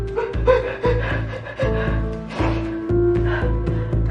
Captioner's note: sobbiobbing